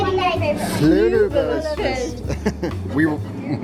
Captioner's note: family speaking in foreign language